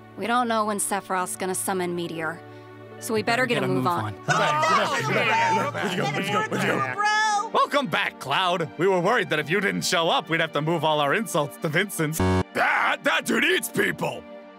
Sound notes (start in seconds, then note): 4.2 Everyone welcoming Cloud